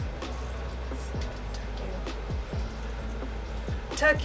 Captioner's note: whispers